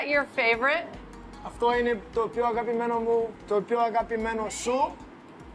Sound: speaking Greek

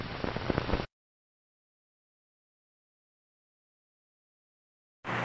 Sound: silence

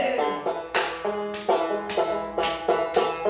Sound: clapping to beat

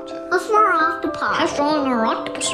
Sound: voice of child

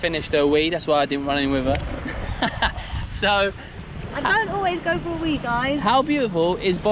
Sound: laughs

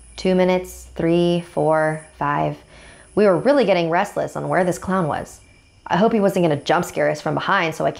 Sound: none

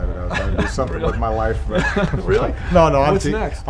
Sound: chuckles

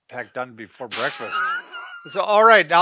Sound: chuckles

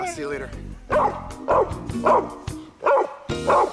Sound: dog barking

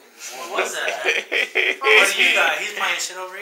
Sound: laughing

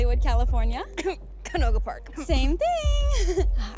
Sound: coughs; giggles

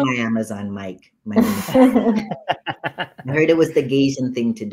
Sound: laughter

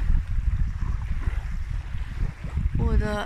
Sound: wave noise

